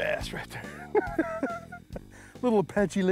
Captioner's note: laughs